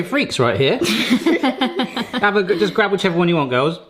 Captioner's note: girls laughing